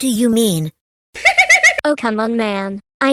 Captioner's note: laughing